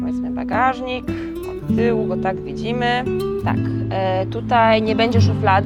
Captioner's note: speaks foreign language